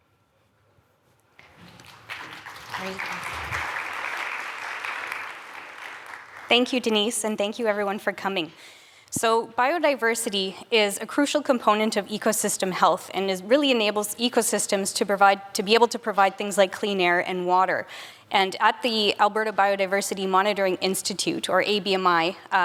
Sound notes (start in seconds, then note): 1.4 applause